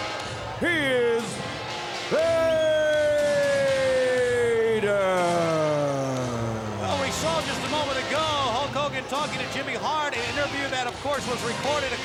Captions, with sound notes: He is Vader! (crowd cheering) Well, we saw just a moment ago, Hulk Hogan talking to Jimmy Hart, an interview that, of course, was recorded